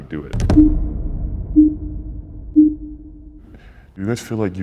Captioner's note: intense boom; countdown beeping